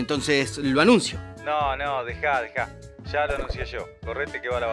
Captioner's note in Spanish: voz en off